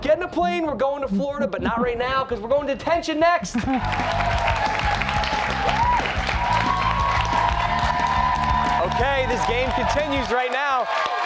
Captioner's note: cheers and applause